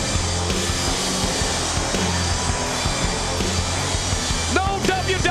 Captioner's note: crowd cheering